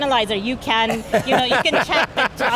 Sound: laughing

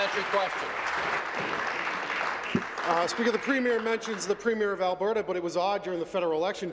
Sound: applause

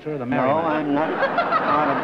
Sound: laughter

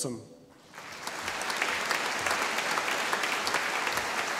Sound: audience applauding

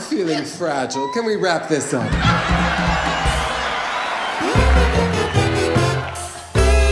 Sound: whimsical music; audience laughing

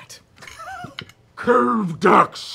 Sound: laughing

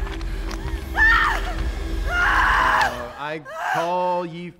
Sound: pregnant woman screaming

